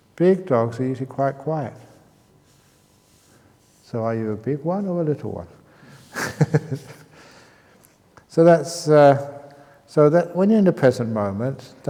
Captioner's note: chuckles